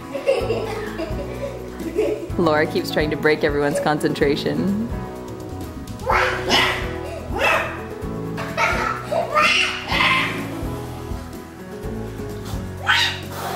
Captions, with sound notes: Laura keeps trying to break everyone's concentration. (screams)